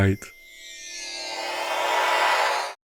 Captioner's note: teleporter noise